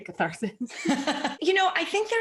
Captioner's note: laughing